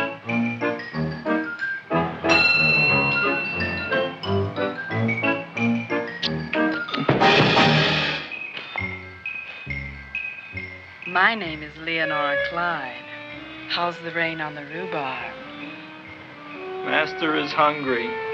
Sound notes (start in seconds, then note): 2.2 light chimes